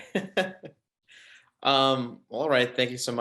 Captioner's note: man laughs